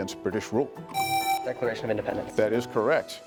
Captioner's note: presses buzzer